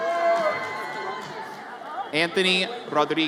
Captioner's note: audience cheers